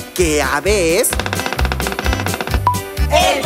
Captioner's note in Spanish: Sonido de pájaro carpintero